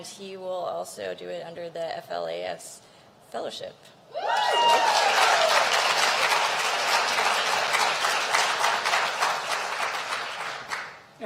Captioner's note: applause